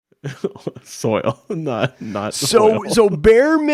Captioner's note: laughs